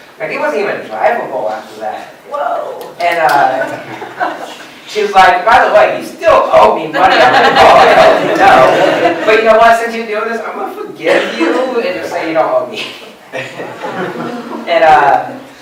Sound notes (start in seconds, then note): 3.6 laughter; 8.9 laughter; 13.3 laughter